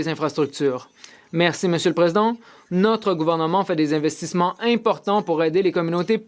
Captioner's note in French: voix de l'interprète